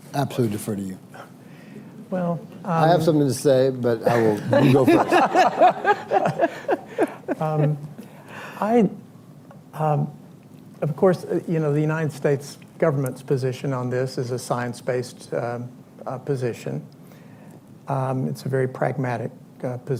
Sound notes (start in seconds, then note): 6.9 laughter